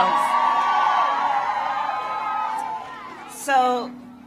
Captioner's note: applause